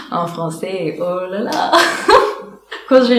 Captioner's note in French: rire